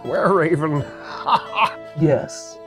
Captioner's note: chuckles